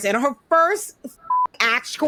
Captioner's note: beep